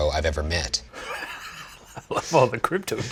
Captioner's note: wheezing